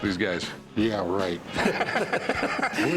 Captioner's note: laughter